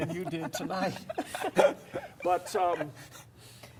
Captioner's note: laughs